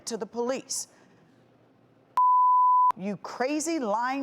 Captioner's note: beeping